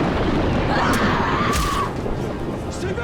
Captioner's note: screaming